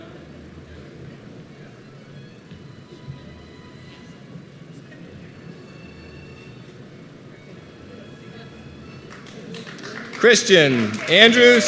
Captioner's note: applause